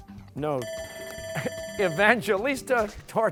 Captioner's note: alarm sounds